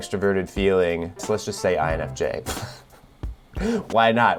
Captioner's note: chuckles